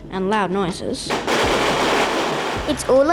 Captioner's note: banging, popping